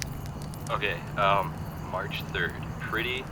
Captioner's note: voice on iPod speaker